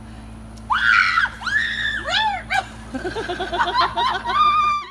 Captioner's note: screams